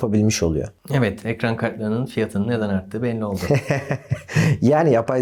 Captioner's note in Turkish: kahkaha